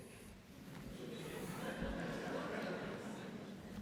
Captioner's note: laughter